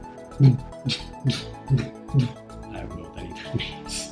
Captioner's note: beatboxing